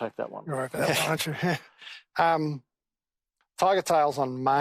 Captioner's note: men chuckling